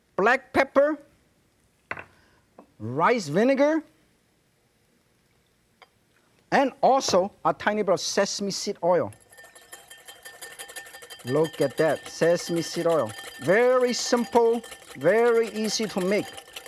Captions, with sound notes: black pepper, rice vinegar, and also a tiny bit of sesame seed oil. (whisking) look at that sesame seed oil, very simple very easy to make.